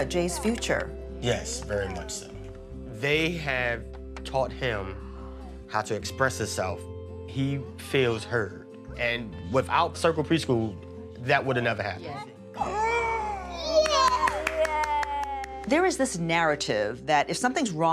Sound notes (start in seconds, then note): 13.6 all clapping